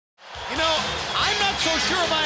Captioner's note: crowd cheering